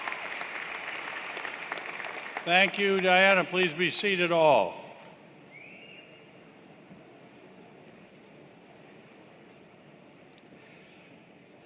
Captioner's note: applause